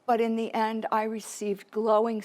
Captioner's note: none